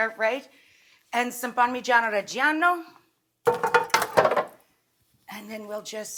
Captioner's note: pan thuds